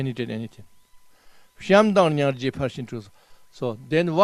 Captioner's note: tibetan